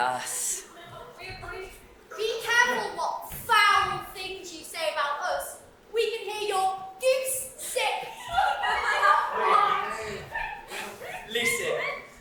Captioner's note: honk laughter